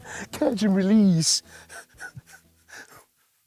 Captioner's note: laughs